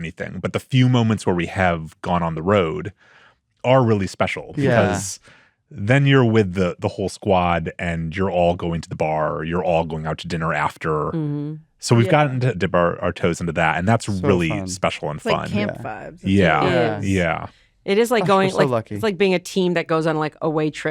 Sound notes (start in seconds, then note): 16.2 all agreeing